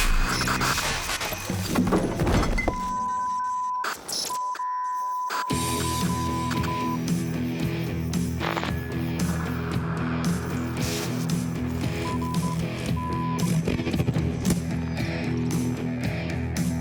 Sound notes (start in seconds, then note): 4.2 long beeps; 5.7 upbeat music